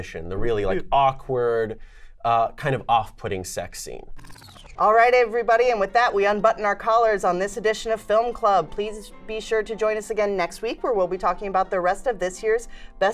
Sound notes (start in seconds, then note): 4.1 record rewind